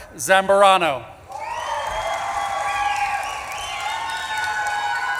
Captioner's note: audience claps and cheers